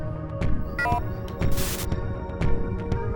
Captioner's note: electronic music; beeping